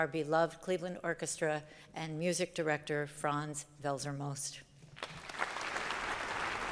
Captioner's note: applause